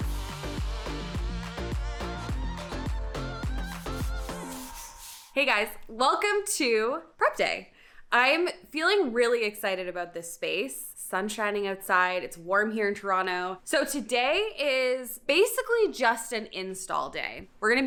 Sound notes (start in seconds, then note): 0.0 upbeat music; 3.7 brush swiping